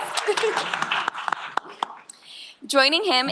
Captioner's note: applause